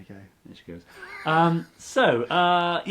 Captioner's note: laughs